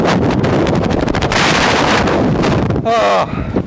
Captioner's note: hard winds blowing